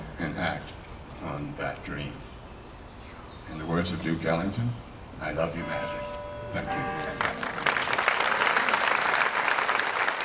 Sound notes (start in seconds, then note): 7.0 applause